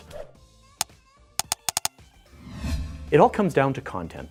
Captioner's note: clicking